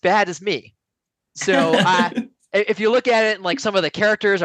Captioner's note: laughs